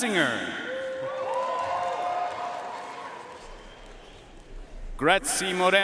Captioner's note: audience cheering and applauding